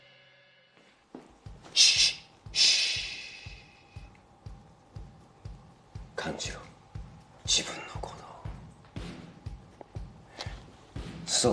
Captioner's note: shushes